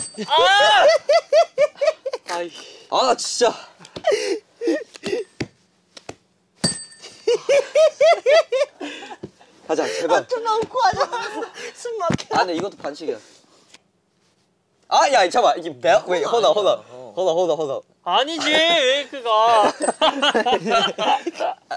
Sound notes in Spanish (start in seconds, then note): 4.0 Jajaja; 19.5 Jajaja